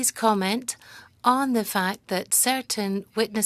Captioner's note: speaking French